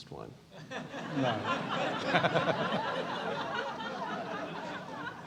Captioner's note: laugh